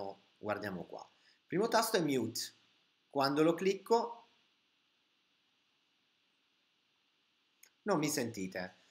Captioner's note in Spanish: mudo